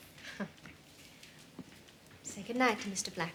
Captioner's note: Bess laughing softly